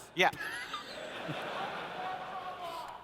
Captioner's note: laughter